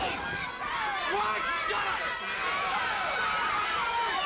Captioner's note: crowd yelling